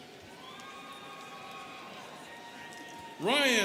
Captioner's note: students cheering